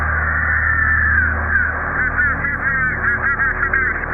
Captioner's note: screaming